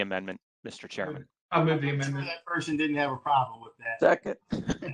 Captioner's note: laughter